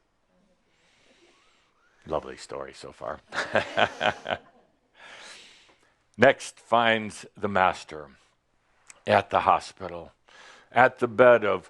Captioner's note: chuckles